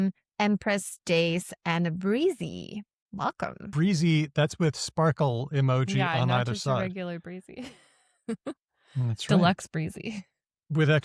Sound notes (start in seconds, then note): 9.0 chuckles